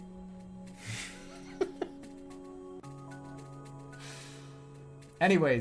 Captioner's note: giggling